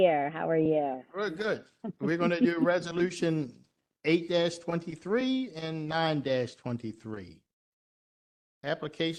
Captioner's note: laughter